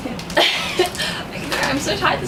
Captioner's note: laughs